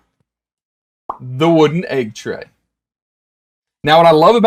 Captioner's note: mouth pops